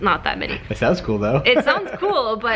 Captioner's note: laughs